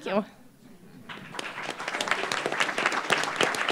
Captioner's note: applause